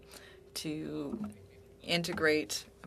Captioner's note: speaking French